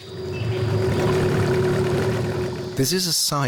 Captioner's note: motor revving